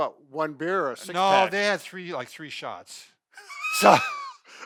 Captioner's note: laughs